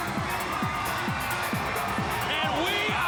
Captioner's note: crowd cheering